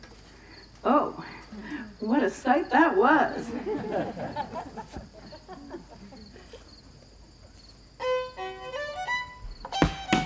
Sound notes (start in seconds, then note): 3.4 chuckles from audience; 8.0 fiddle Music